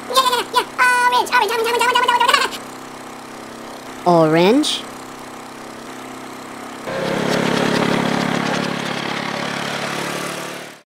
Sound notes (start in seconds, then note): 2.9 ATV motor; 5.7 ATV motor